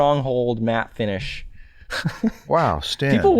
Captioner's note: chuckles